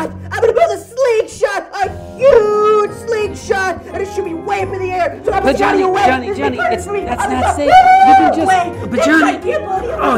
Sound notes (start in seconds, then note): 7.5 shouting